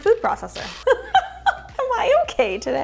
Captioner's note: laughs